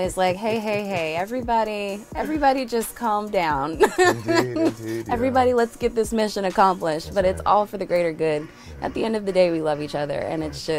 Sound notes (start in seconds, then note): 3.7 laughs